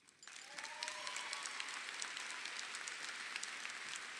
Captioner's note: audience applauding